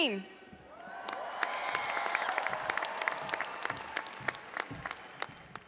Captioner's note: audience cheering and applauding